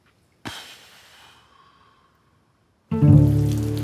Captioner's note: sighs